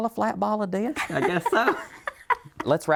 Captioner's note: laughs